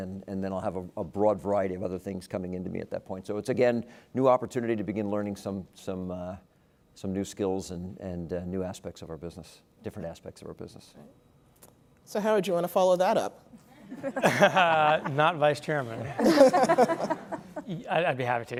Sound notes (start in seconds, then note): 13.7 laugh